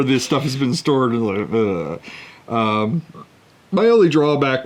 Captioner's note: grossed out noise